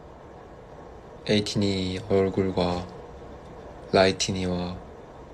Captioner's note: lights ticks